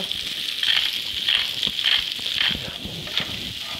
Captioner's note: sizzling